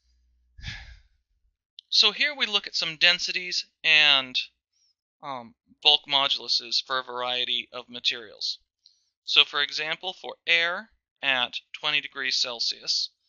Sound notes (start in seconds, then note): 0.6 sighs